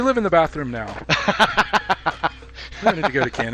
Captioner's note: laughing